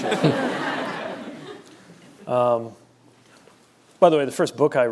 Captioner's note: laughter